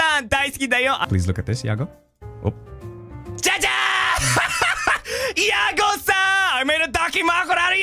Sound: laughs

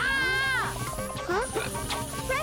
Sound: screaming; beeping continues

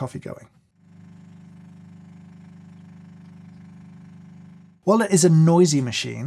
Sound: coffee machine whirring

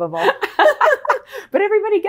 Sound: laughs

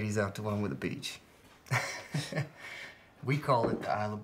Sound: chuckles

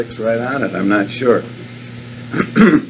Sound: clears throat

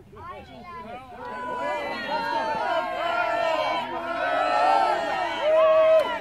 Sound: crowd cheers and shouts encouragement

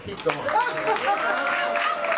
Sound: audience cheering; laughs

